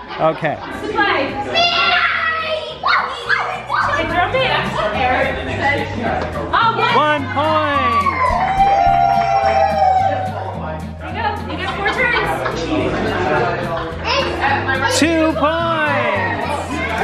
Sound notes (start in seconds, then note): 3.3 yelling; 7.7 cheering